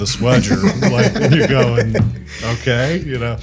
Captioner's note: group laughs